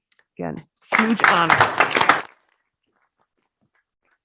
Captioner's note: applause